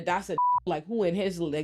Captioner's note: beep